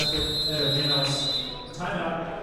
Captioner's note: whistle blows